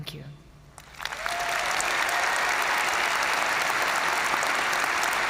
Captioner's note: audience cheering and applauding